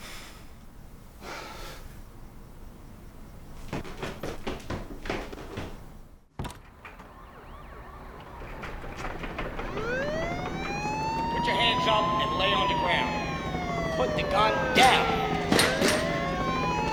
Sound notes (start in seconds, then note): 6.3 door opens; 7.2 police sirens sound off; 11.5 on megaphone; 13.9 gun shots